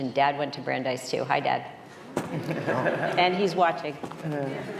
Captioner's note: laughter